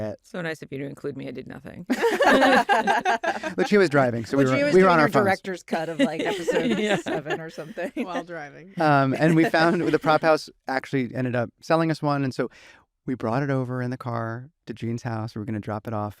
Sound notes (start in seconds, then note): 1.9 laughter